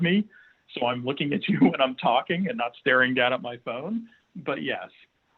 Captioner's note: chuckles